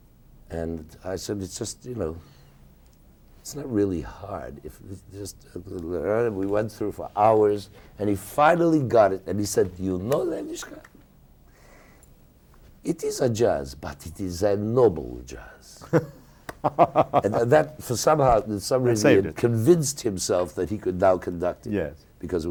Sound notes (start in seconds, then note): 16.5 laughing